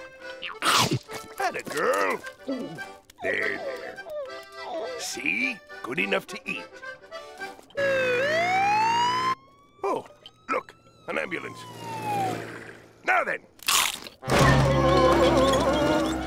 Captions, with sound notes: Thatta girl! There, there. See? Good enough to eat. [siren blaring] Oh, look, an ambulance. Now, then... [moaning]